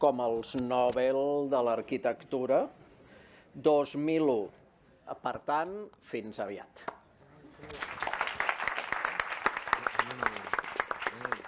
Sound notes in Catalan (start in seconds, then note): 7.6 Aplaudiment